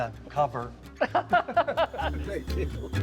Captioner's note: both laughing; laughs